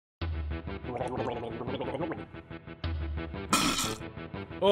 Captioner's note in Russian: звуки полоскания рта